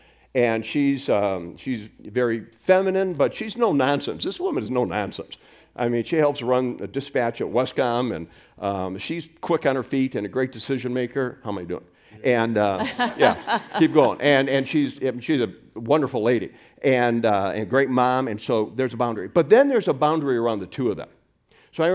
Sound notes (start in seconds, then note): 12.8 laughs loudly